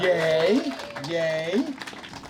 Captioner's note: cheers and applause